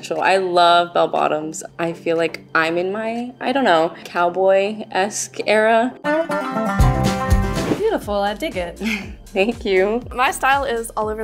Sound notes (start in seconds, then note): 6.0 country music; 7.4 transition whooshing; 8.8 giggling